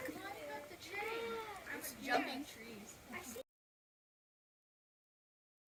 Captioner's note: students chattering excitedly